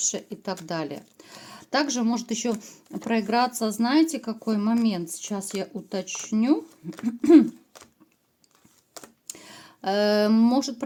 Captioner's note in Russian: откашливается